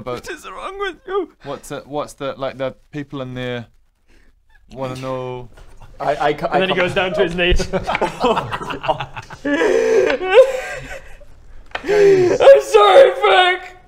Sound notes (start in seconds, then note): 9.5 cries loudly; 11.8 wails